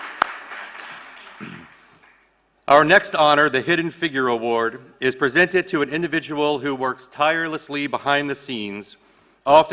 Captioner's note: applause